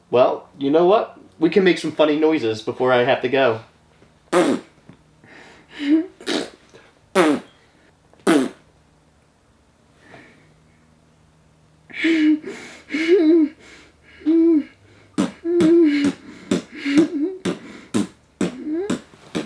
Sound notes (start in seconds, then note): 4.3 blows raspberry; 7.1 both blowing raspberries; 12.3 laughing; 15.6 blowing raspberries